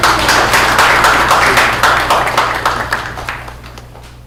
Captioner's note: audience applauds